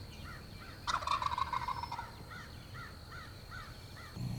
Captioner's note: turkey gobble